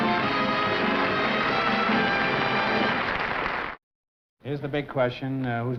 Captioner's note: applause